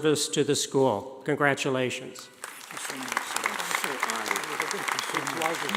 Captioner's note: audience applauding